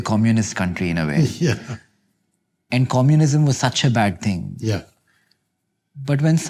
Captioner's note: chuckles